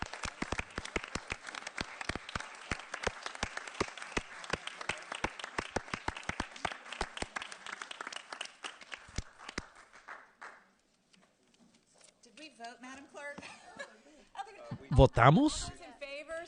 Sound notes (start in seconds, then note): 3.3 applause